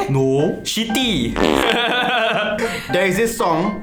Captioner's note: laughs